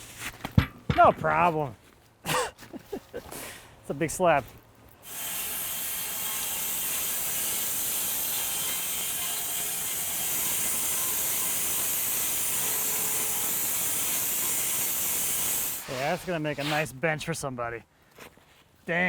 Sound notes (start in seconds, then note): 2.3 laughs; 5.2 electric saw screeching